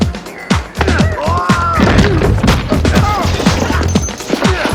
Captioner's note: upbeat action music; men grunting